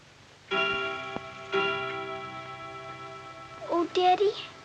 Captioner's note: chiming